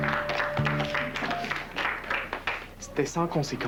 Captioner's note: Applaudissements